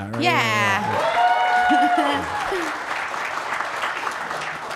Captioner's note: audience cheering